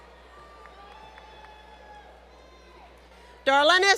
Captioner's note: crowd Cheering